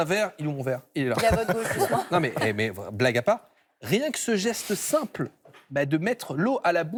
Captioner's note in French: rires